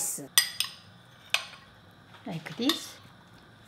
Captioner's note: utensil clanking